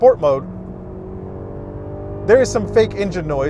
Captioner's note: engine revving